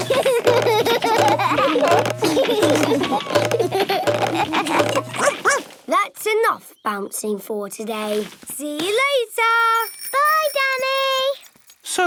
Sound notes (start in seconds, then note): 0.0 all laugh; 5.2 barks